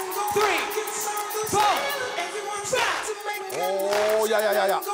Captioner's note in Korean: 두근두근